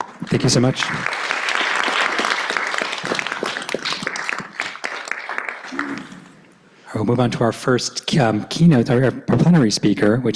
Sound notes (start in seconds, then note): 0.2 applause